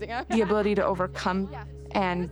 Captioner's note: laughs